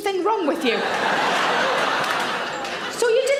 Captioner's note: audience laughs